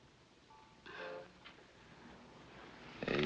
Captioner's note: sighs